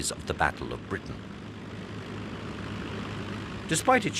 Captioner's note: plane roaring